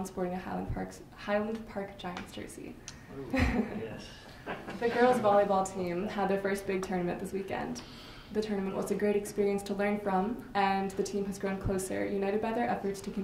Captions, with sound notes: sporting a Highland Park Giants jersey. (laughter) The girls' volleyball team had their first big tournament this weekend. The tournament was a great experience to learn from and the team has grown closer, united by their efforts